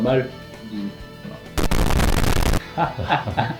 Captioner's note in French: bruit de micro qui crache; rire constipé, le retour